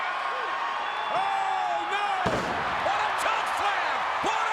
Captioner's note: body slamming